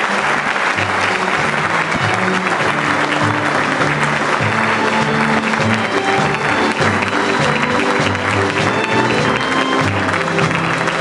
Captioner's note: applause